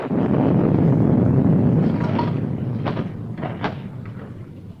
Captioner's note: thunder rumbling; drawers rattling